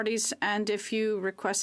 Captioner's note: speaking French